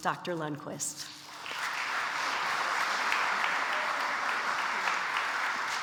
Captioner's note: audience applauds